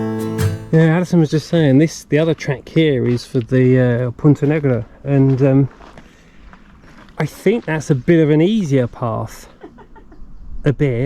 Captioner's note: laughs